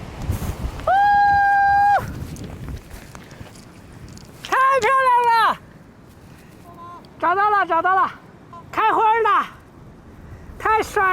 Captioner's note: speaking Chinese